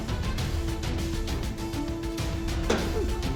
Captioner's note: thud